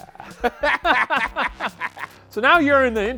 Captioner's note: laugh